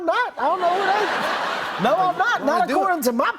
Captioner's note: laughter